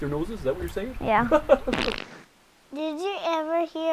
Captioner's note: flatulence